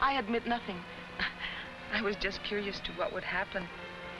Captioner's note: chuckles